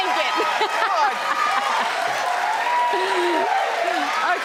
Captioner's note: audience cheers